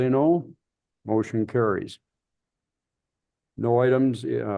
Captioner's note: silence